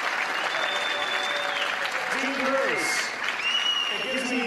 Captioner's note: cheers & applause